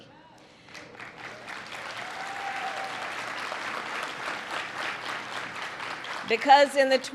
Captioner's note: applause